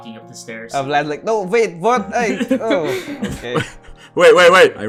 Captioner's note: laughter